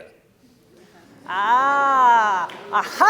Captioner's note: laughter